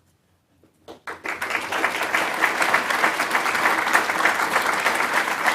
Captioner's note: audience applauding